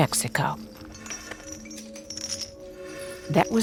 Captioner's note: chains rattling